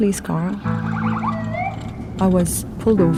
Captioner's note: sirens wailing